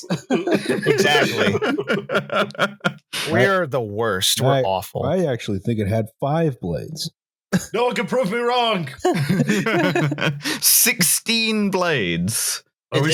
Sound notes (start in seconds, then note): 0.0 laughter; 7.5 laughter; 7.7 shouting; 9.3 laughter